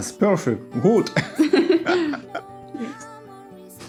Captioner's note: laugh